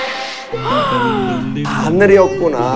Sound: gasps

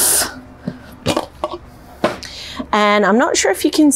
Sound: clanking sound

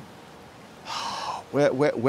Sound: exhale

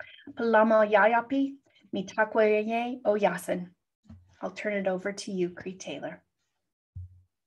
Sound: non-english speech

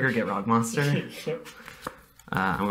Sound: laughter

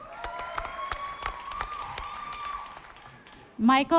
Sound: audience applauding

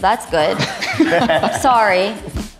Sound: all guys laughing

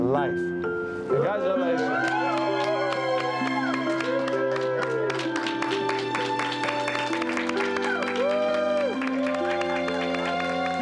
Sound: cheering and clapping

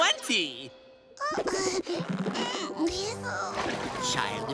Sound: groaning

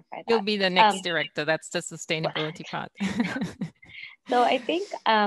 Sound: laughs

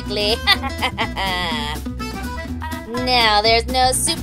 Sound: laughter continues

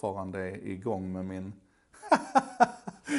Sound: laughs

